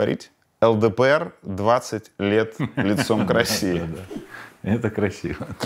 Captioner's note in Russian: смеясь